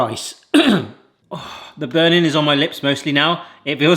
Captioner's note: coughs; sighs